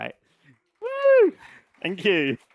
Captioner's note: applause